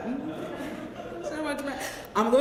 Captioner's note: laugh